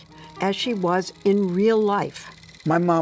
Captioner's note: projector clattering